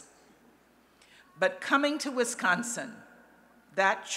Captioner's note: none